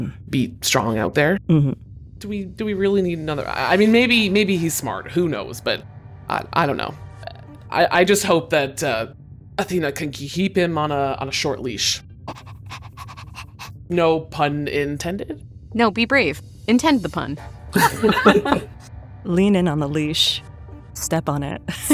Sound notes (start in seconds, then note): 12.2 SOMEONE pants; 17.7 laughs; 20.8 laughs